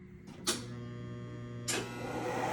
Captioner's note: click